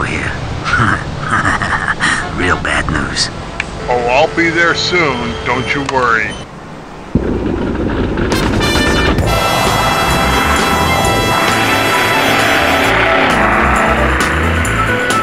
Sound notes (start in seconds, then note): 0.6 chuckles evily